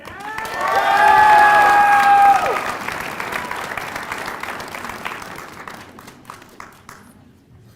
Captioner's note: applause